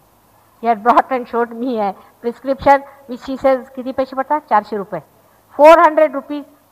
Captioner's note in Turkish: Hintçe Konuşuyor